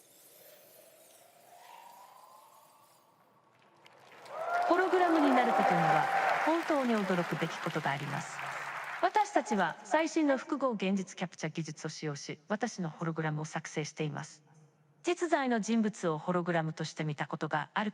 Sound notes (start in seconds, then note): 3.9 audience cheering; 8.3 in japanese